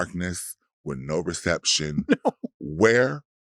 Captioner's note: chuckles